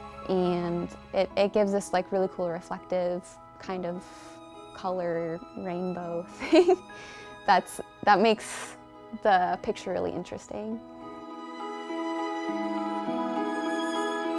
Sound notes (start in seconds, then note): 6.4 chuckles; 11.0 light soaring music